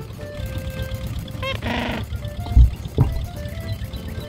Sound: squawk!

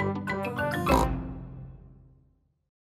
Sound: oink

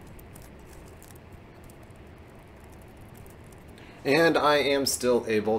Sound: typing

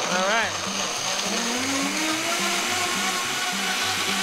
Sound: buzzing

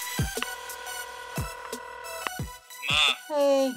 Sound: upbeat music; phone ringing

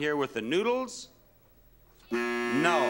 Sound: buzzer beeps

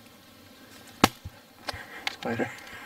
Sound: bang

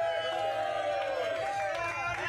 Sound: audience cheering

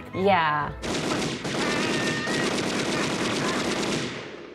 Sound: guns shooting

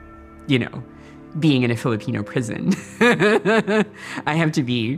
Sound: laughing

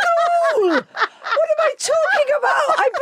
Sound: Giovanna laughs

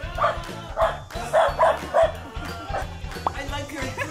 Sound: bark

